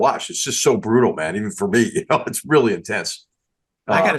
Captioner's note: laugh